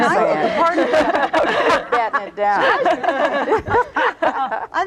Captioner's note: all laughing